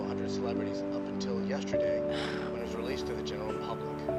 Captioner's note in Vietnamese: thở dài tuyệt vọng